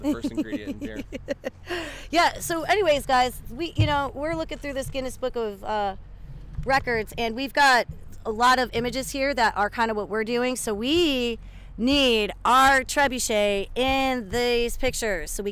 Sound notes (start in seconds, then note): 0.0 chuckles